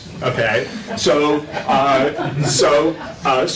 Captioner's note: laughter